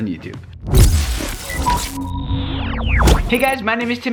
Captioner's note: electronics whirring